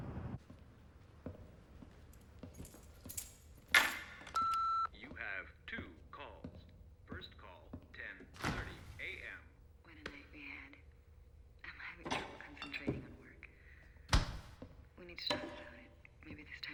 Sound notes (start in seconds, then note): 4.3 answering machine beeps